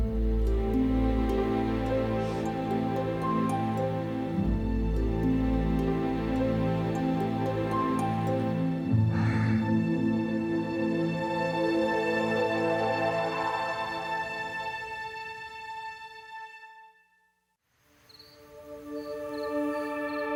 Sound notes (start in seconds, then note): 9.0 sighs; 18.3 soft music